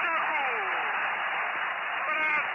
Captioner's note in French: la foule en liesse